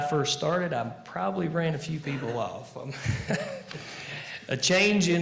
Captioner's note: laughing